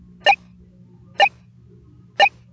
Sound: beep; beep?

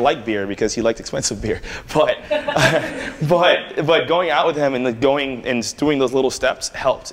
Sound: laughter

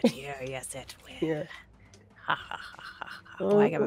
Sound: GM laughs maniacally

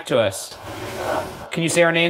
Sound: whispers

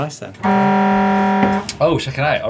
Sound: horn blaring

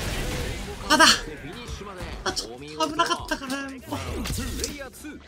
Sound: funny voice

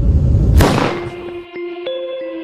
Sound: gunshot blasting; soft music

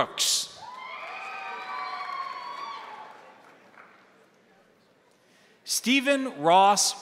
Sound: crowd cheering; crowd applauding

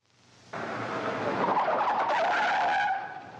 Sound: tires screeching

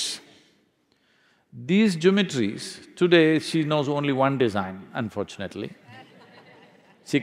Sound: laughter

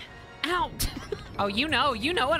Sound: laughter

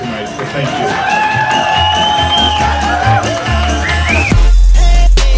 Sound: cheering

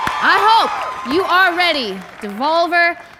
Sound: shouting and Applause

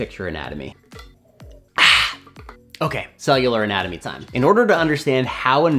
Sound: sips water-deep exhale

